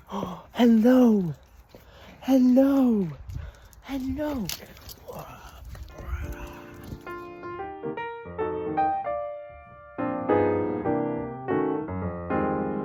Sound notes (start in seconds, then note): 1.7 gasp